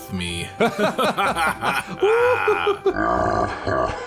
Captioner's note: laugh; deep growly laugh